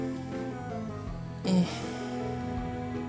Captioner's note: quiet groan